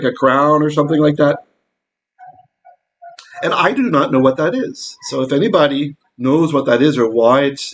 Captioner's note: dog barking